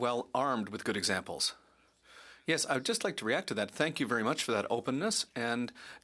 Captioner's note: speaking French